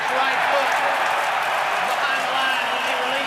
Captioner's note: cheering